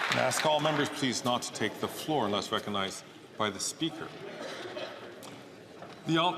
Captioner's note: some Applause